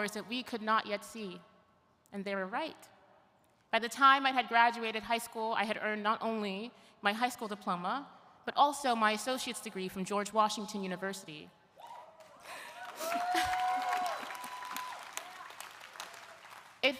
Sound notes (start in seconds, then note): 11.8 audience cheering; 11.8 chuckles; 12.2 audience applauding